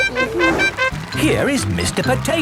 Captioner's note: horn tooting; all laughing